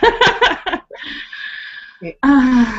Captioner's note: laughs and sighs